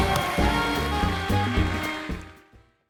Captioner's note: cheers and applause; band playing